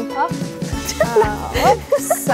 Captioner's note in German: Sie kichern